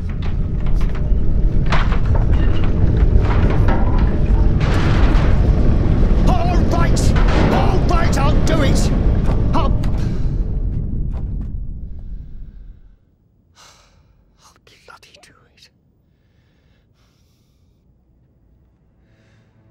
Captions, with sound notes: (house rumbles) (intense music) (objects clattering) All right! All right, I'll do it! I'll... I'll bloody do it.